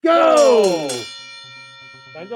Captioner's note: bell ringing